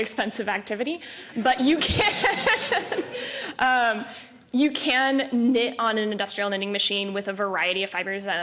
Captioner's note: laughter